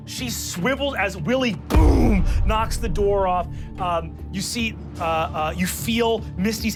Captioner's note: boom